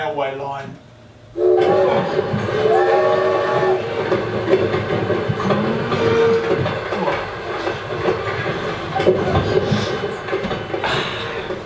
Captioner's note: SFX - Train